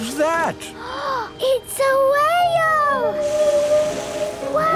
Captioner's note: gasps; whale calling